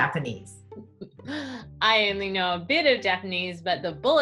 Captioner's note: laughs